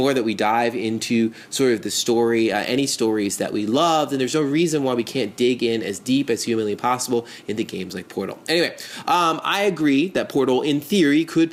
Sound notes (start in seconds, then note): none